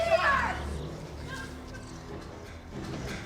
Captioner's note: crying